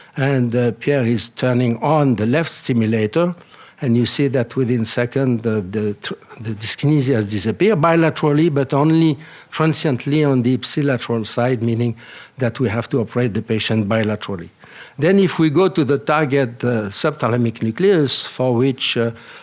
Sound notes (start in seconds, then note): none